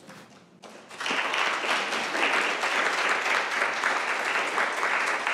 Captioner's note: applause